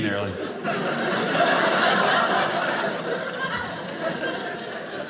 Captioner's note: audience laughing